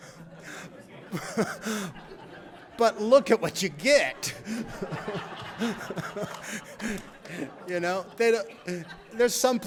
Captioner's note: laughter